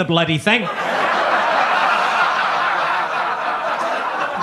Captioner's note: audience laughs